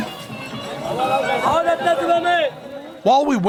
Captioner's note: chatter